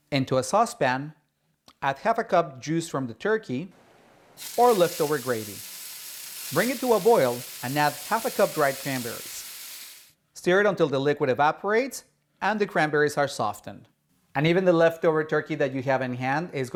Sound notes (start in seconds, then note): 4.4 pot sizzles